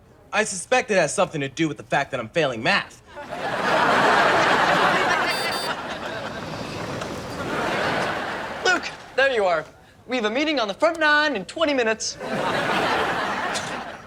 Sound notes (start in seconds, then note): 3.1 audience laughs; 5.1 golf cart horn honks